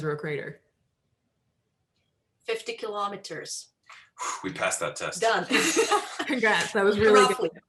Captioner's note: laughter